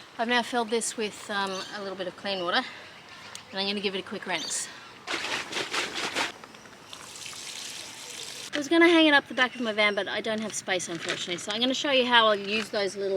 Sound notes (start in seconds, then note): 5.0 water sloshes loudly; 5.0 water trickles softly onto grass